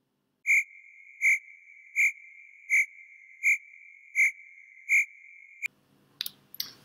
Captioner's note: cricket sounds